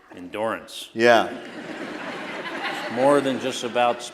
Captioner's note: laughter